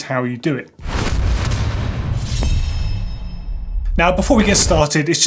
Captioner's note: whoosh and clank sound